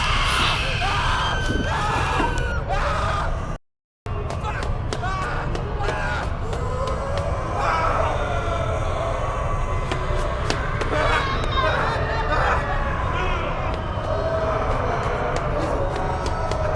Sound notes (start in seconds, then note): 0.0 screeching; 2.1 Keith shouting; 8.5 mummies groaning